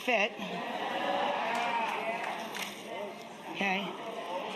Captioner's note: audience cheering